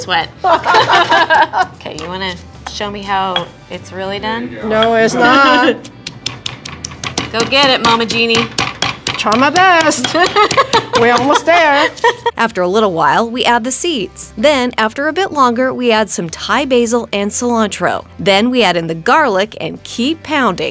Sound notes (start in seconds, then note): 0.4 both laughing; 10.0 laughs